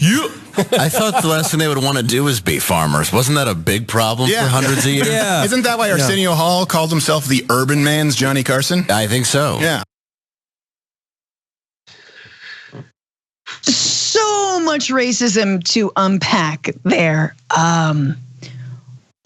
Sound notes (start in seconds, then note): 2.7 laugh